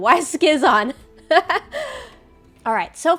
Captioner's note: laughs